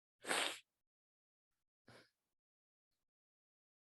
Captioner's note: wheezes